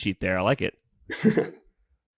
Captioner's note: laughs